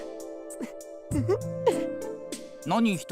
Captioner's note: chuckle